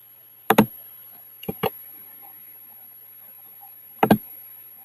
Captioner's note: keyboard typing